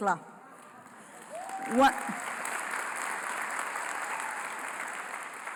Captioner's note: applause